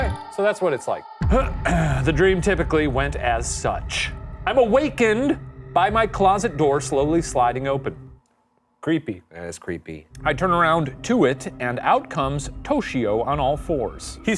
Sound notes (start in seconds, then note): 1.3 clearing throat